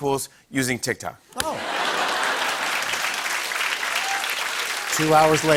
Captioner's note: laughter and applause